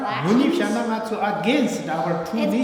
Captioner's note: speaking tibetan